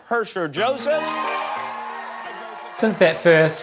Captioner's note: audience cheering